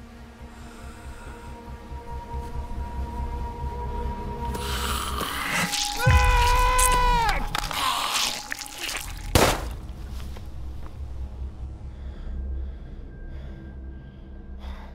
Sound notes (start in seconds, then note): 0.4 breathing; 5.0 biting; 6.2 painful scream; 9.3 gun shot